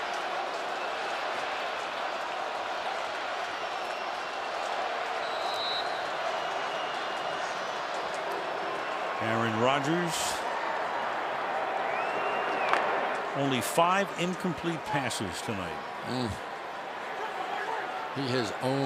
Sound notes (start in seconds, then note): 0.1 cheering; 5.2 whistle blows